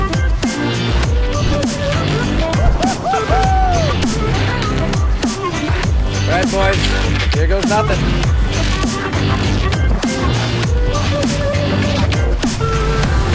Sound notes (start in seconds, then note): 2.6 man whooping; 5.7 upbeat electronic music; 9.8 upbeat electronic music